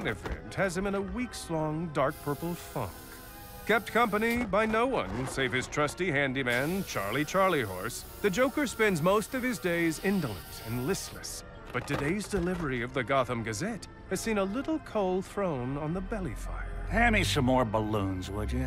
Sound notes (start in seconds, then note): none